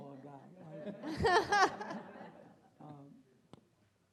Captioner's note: all laughing